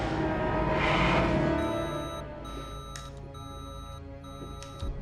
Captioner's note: machine beeping